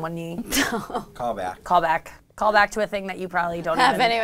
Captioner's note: laughs